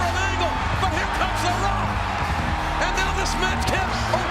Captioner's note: crowd cheering